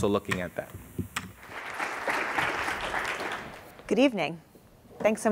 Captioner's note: applause